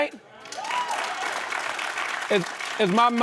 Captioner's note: cheering and applause